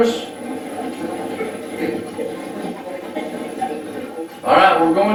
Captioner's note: static playback transmitting